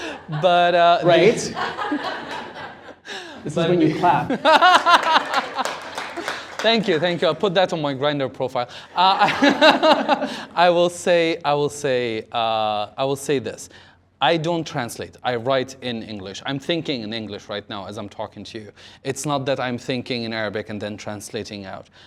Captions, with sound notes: - But, - Right? - It's like when you clap, (laughter and applause) - Thank you, thank you. I'll put that on my Grindr profile. I will say. I will say, I will say this. I don't translate, I write in English. I'm thinking in English right now as I'm talking to you. It's not that I'm thinking in Arabic and then translating out.